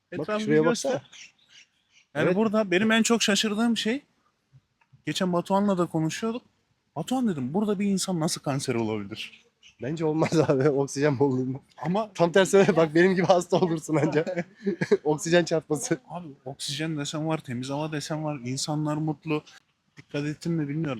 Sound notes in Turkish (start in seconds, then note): 12.5 kahkaha